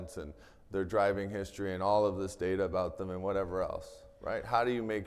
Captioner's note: none